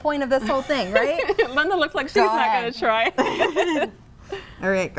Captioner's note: chuckles